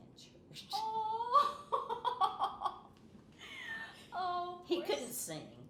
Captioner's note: laughing